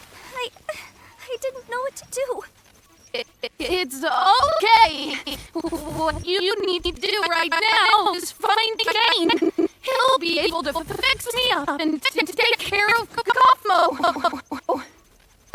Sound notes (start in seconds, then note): 0.4 whimpers; 3.0 glitching continues